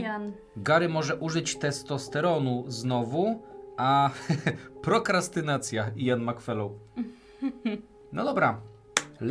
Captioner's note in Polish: śmiech